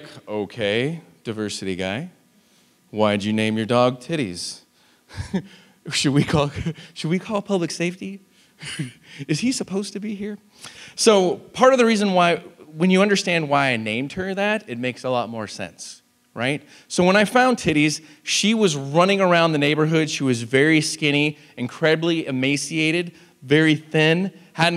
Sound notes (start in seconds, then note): 5.1 laughs